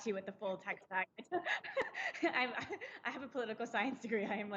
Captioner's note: laughing